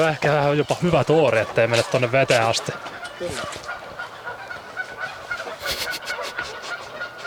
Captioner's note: birds vocalizing hard in the water